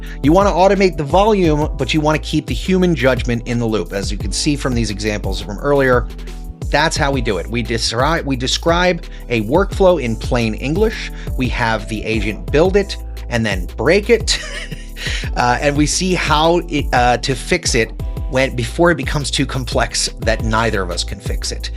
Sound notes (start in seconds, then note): 14.3 laughs